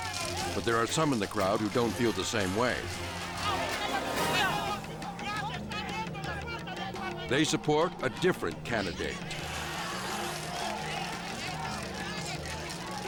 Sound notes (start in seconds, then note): 4.5 protester speaking in foreign language; 10.3 protester speaking in foreign language